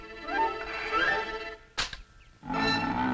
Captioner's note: gun clicks; growl